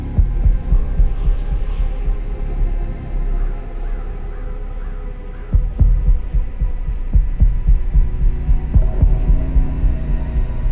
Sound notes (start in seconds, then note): 0.1 suspenseful music thumps; 3.4 gentle suspenseful music; 3.7 crow cawing; 5.6 suspenseful music thumps